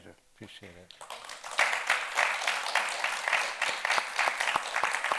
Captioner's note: audience applauding